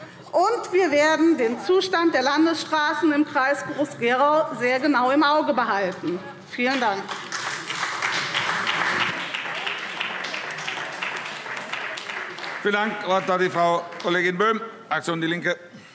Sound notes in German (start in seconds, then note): 6.6 Beifall SPD